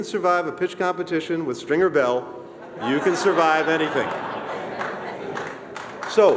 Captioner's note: laughter